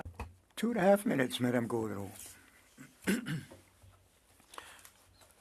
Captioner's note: speaking French